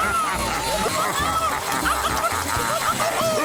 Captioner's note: fruit yelling; blender cackling